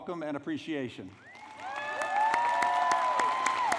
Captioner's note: applause